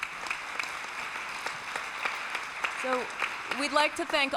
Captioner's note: applause